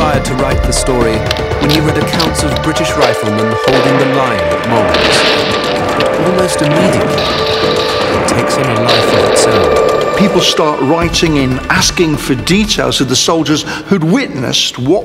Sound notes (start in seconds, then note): 5.3 guns roaring